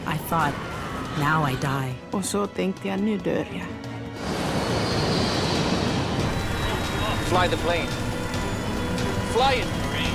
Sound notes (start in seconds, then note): 4.1 plane roar; 10.0 automated Voice